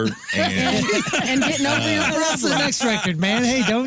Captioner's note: laughing